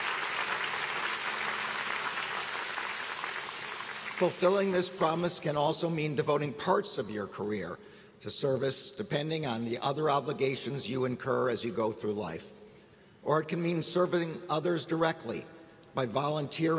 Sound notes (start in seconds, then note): 4.7 applause